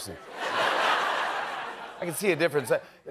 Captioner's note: laughter